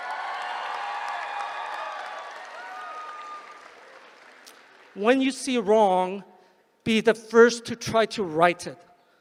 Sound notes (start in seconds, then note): 3.6 applause